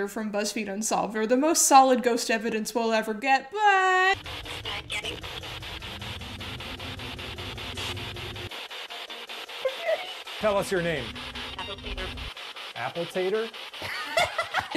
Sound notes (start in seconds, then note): 4.3 static crackles; 9.6 giggling; 13.8 laughs